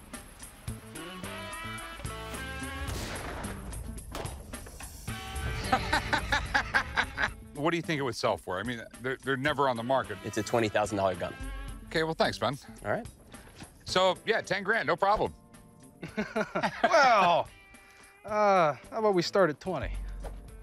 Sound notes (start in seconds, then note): 2.7 gunshot; 5.5 laughter; 16.0 laughs